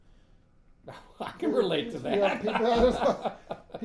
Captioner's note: laughing